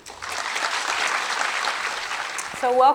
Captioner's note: clapping